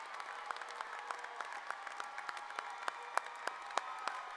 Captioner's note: cheers and applause